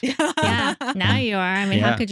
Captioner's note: both Laughing